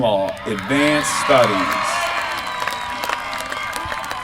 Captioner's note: applause